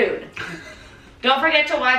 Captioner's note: laughing